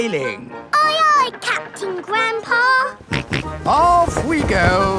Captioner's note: snorts